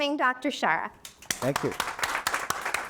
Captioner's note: audience applauding